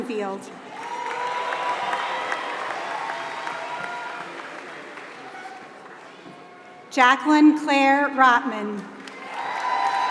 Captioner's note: applause; applause